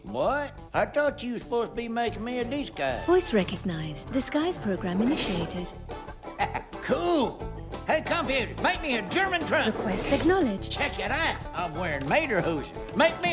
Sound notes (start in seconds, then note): 3.3 computer Voice; 9.9 computer Voice